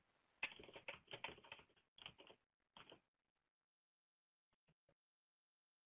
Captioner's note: keyboard keys clattering